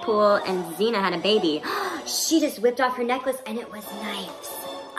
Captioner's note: gasp